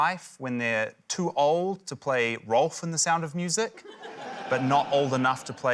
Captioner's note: laughter